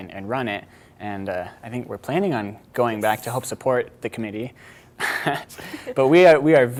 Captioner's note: chuckling